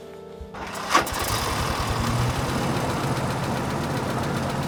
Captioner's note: engine revs